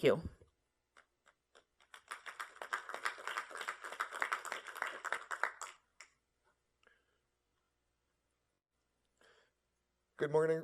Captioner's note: applause